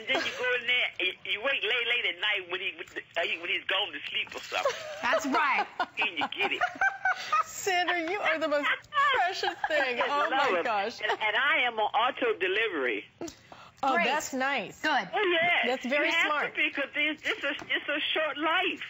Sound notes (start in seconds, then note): 4.4 laughter